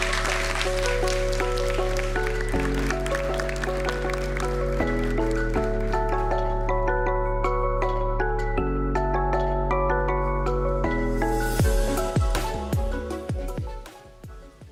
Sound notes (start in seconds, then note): 1.9 applause